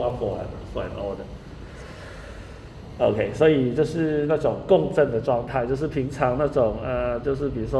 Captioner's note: speaking in foreign language